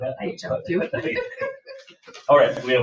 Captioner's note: laughs